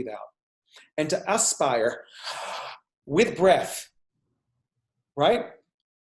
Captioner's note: exhales